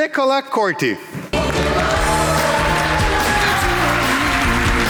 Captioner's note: audience applauding